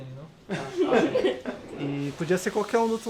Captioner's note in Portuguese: risos